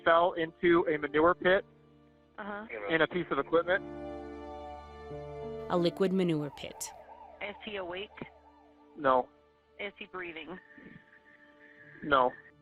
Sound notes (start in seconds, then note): 4.3 gentle music; 5.7 sirens wailing